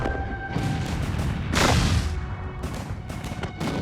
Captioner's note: bombs explode